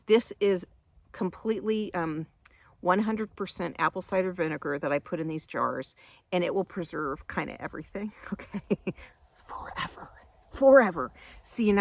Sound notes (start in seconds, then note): 8.2 chuckles